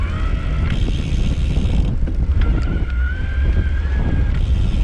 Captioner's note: wind whooshing